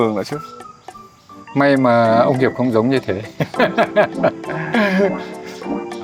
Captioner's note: laugh